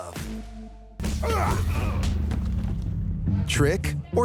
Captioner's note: fighting grunts